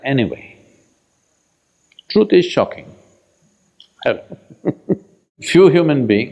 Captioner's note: laughs